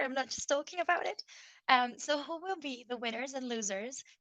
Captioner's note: none